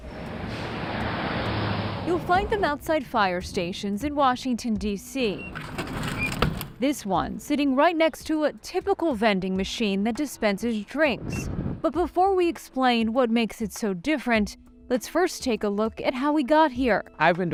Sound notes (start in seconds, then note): 0.0 car whooshing; 5.3 button beeps; 5.6 item rumbling